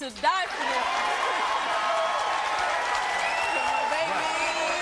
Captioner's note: audience cheering and applauding